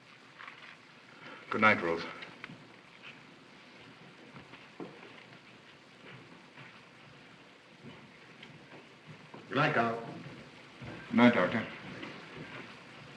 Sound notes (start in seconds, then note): none